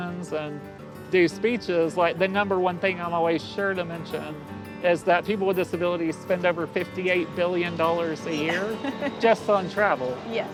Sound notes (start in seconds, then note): 8.3 laughing